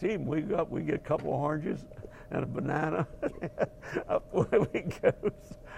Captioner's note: laugh